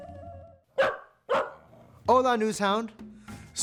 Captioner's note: News Hound barking